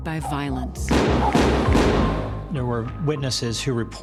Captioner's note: gunshots